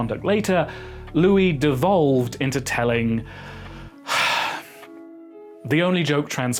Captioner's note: sigh